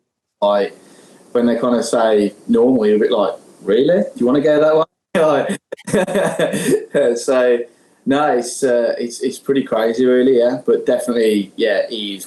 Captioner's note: laughs